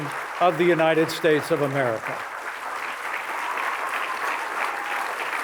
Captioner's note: applause